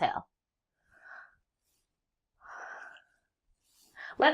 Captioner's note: inhale and exhale